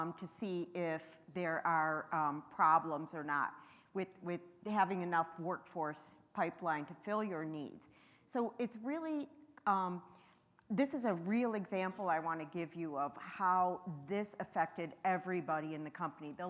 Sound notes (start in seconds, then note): none